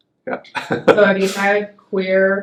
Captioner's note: laughs